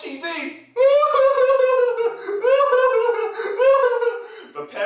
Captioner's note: sound of crying